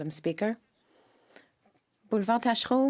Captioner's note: speaking French